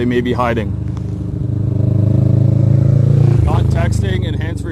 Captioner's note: engine grumbling